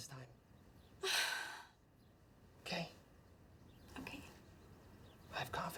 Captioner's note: sighs